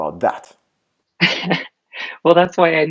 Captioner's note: laughs